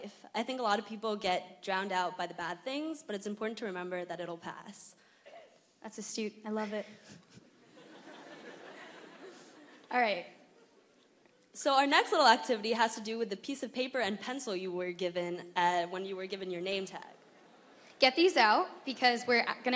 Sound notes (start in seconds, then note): 10.5 laughter